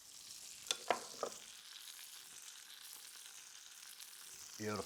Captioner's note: pears sizzling